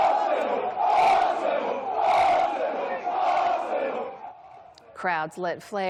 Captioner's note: cheers